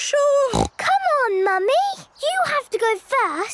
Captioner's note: snorts